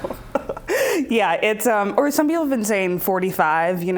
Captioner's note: laughs